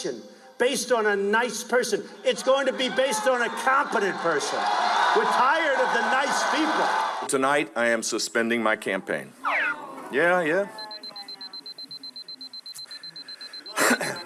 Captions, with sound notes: to be an election based on a nice person. It's going to be based on a competent person. (cheering) We're tired of the nice people. - Tonight, I am suspending my campaign. Yeah, yeah.